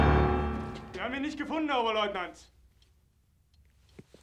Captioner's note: speaking german